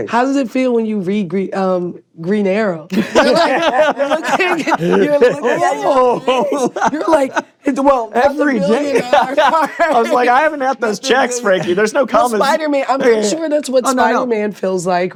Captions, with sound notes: Coy, how does it feel when you read Green Arrow? (LAUGHING) -You're like... -Oh! (LAUGHS) -You're like... -Every day! I was like, "I haven't had those checks, Frankey. -There's no comments." -Spider-Man-- I'm sure that's what Spider-Man feels like, right?